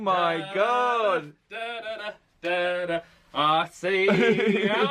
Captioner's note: hums